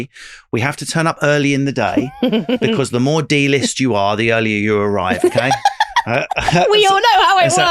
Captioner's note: laughing